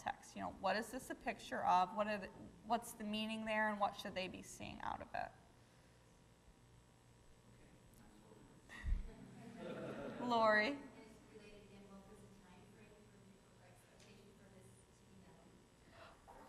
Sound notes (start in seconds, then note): 7.8 audience laughing